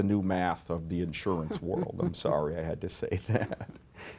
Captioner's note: laughs